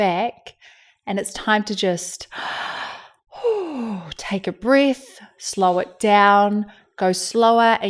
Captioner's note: releases a sigh